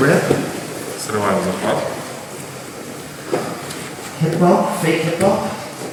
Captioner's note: speaking in a foreign language